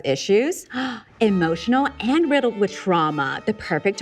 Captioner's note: gasps